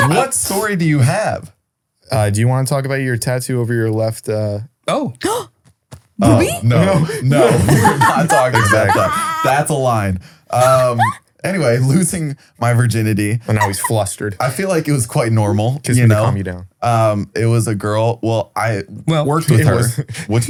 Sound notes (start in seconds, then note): 0.0 laughs; 6.7 gasps; 8.8 laughing